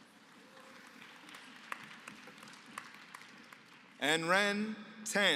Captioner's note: applause